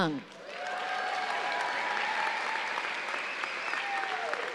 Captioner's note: audience cheering